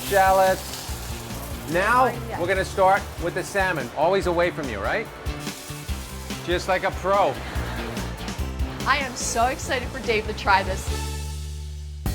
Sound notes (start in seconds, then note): 7.3 audience chuckling